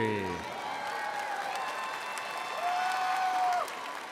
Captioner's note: audience cheering